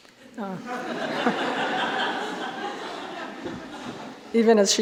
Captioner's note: audience laughing